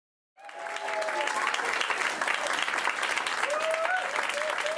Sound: audience applause

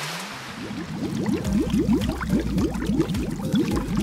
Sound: water splashes; water bubbles

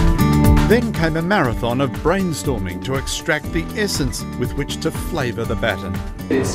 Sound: voiceover

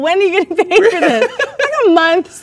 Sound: both laugh

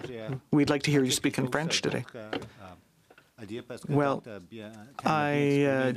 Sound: speaking French

